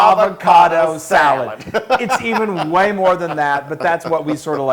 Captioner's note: laugh